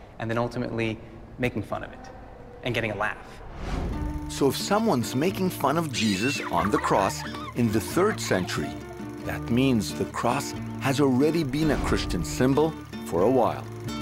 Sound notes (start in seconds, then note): 5.3 children laughing